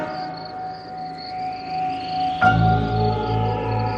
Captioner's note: wind howling